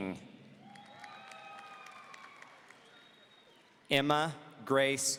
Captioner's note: audience cheering